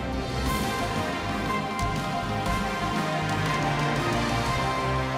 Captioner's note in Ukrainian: оплески